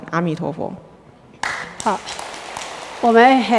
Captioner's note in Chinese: 眾人鼓掌